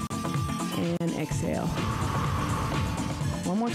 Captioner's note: breath hisses